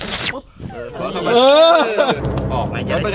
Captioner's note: Pat; laughs